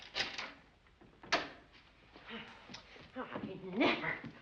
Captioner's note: bolt clicking